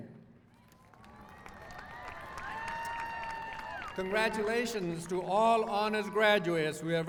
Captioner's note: applause